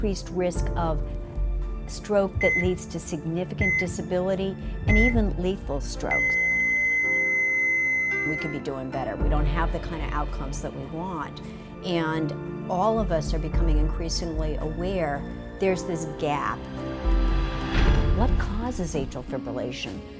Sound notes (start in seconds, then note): 6.1 heart monitor flatline tone